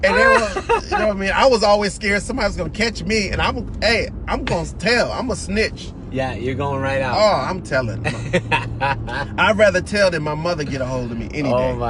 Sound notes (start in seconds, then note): 8.0 laughter